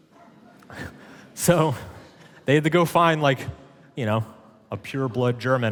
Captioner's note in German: lacht